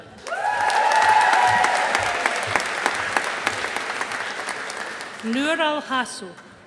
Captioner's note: audience applauding